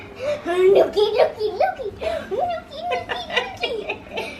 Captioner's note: vocalizing